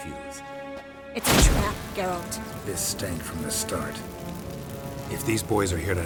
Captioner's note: flames pop